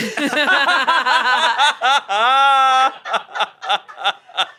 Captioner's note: everyone laughs